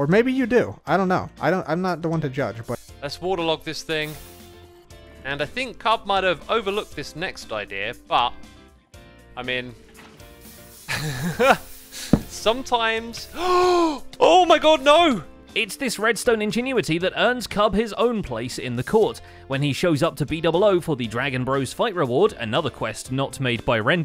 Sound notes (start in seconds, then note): 3.8 sizzle; 10.9 laughs; 12.5 gasp